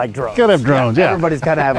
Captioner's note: laughs